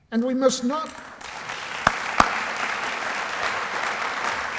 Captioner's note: applause